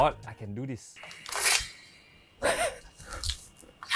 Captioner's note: sword in-built sound effects